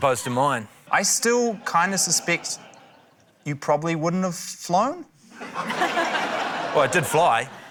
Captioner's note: laughter